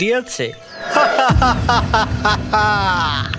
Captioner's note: evil laugh